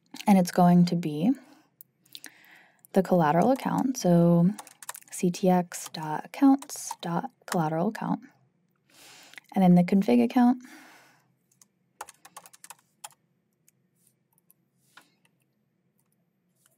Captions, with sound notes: and it's going to be the collateral account, so ctx.accounts.collateral_account. And then the config account. (keyboard clacking)